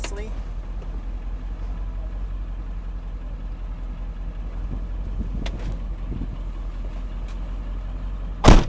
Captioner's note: wind blowing